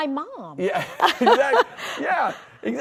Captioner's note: laughing